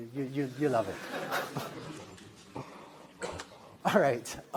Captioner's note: laughter